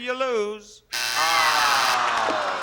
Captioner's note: buzzer sounds